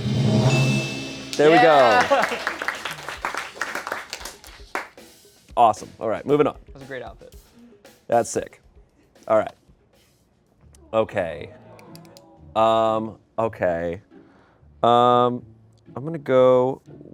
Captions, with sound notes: (bell dings) There we go. (audience applauds) Awesome. Alright, moving on. That's sick. Alright. Okay. Okay. I'm gonna go